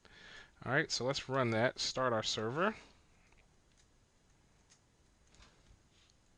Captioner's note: silence